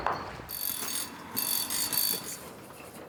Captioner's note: gentle rattling